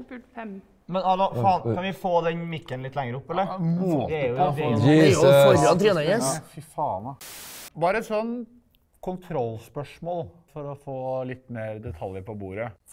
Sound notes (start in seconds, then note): 4.8 guys laugh